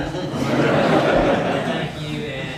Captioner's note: audience laughs